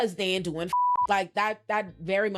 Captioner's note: beep